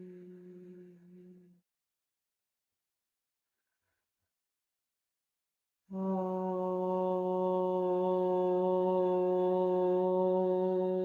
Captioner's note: chanting